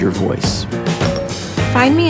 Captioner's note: phone rings